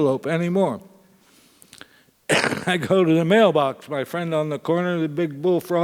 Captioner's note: cough